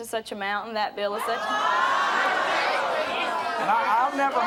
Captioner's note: audience gasping